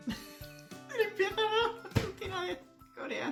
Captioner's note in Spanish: sonido: risa ahogada; riendo; risa